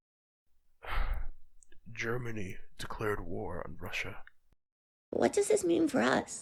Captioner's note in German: seufzt